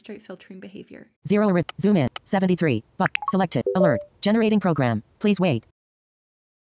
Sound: app speaking

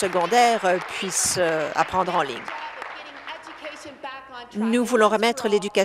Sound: applause

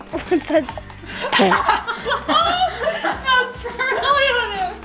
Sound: people laughing

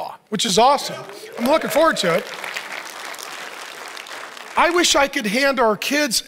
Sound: audience applauds and cheers

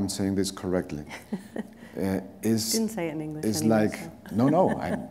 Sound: chuckle

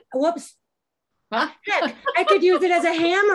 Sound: laughs

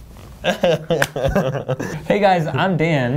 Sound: laughing

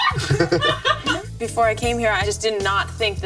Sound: people laughing

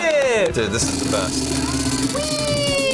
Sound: laughs

